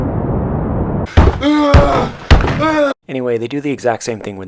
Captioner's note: Nate yelling like an ape